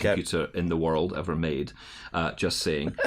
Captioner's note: laughter